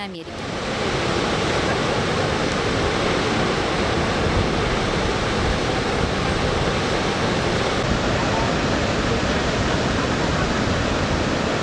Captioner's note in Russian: шум водопада